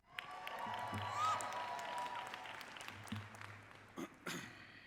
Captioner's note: audience applauding